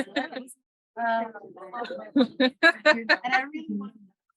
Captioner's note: women laughing